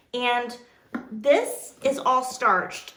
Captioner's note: none